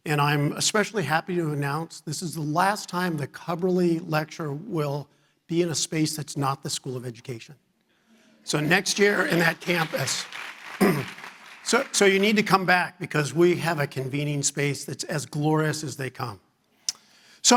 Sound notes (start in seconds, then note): 8.6 audience applauding